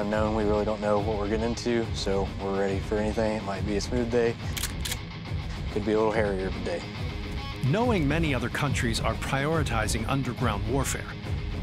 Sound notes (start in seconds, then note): 4.4 gun cocks